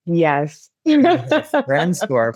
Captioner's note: laughs